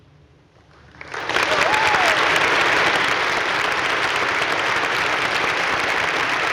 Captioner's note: audience cheering and applauding